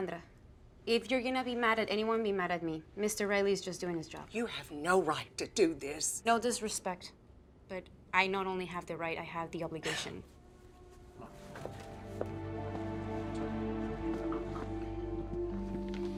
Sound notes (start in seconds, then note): 9.8 Louisa scoffs; 11.2 somber music